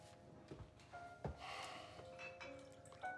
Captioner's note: sighs